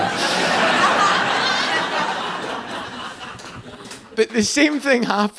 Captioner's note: audience laughing